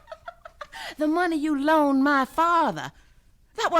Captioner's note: laughs